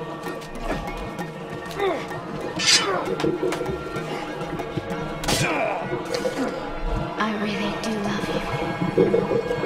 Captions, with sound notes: (sword unsheathed) (stabbing) I really do love you.